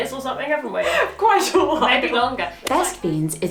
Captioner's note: laughs